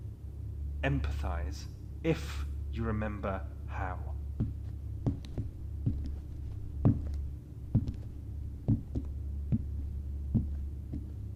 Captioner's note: receding footsteps